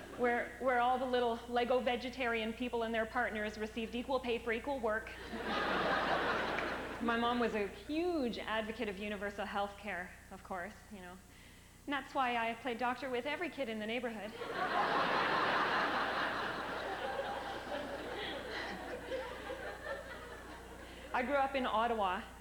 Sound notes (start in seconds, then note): 14.3 laughter; 17.0 soft laugh